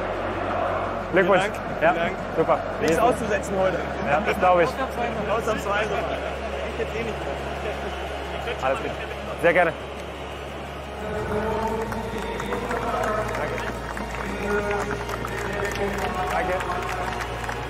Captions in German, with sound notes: Glückwunsch. Vielen Dank. Nichts auszusetzen heute. Das glaube ich. Sehr gerne. *Applaus* Danke. Danke.